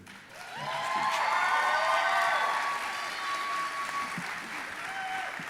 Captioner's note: audience applauding and cheering